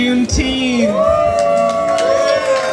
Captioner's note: crowd cheers